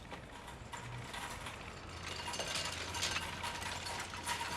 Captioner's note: cart rattling